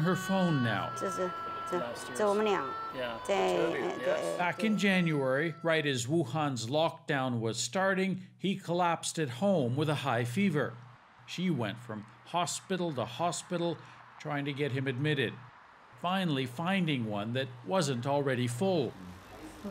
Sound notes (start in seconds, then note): 2.0 speaking foreign language